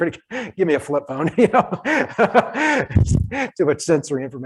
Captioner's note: laughs